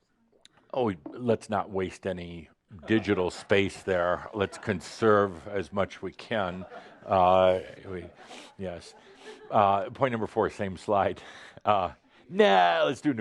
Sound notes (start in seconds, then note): 7.5 some chuckles